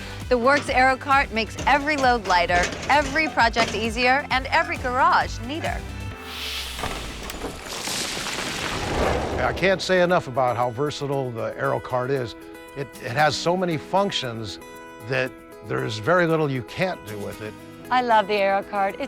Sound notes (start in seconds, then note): 6.2 wind whooshes; 6.6 rocks clatter